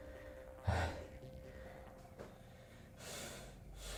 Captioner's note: deeply breathing